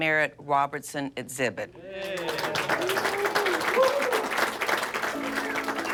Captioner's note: cheering and applause